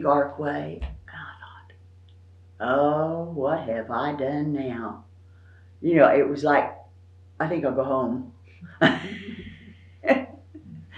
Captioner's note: laughs